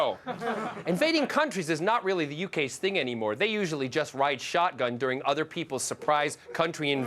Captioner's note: laughter